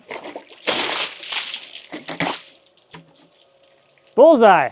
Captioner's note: water splashing